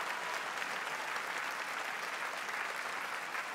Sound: applause

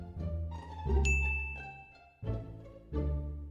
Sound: ding

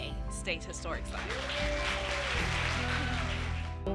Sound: audience applauding

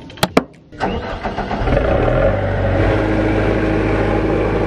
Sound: engine hums

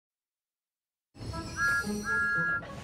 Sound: thomas whistles

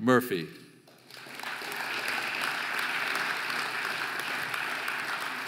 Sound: audience applauding

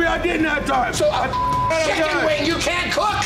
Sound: beep

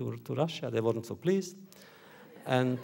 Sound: audience laughter

